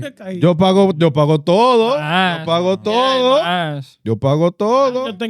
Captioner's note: speaking In Foreign Language